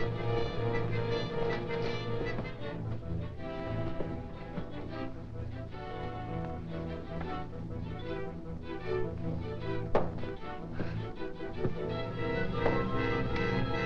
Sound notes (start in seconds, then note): 9.9 whip thudding